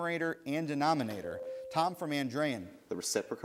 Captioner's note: bell rings